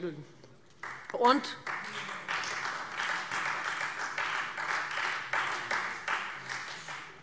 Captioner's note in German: Beifall Freie Demokraten